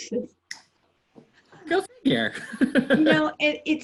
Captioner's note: laughter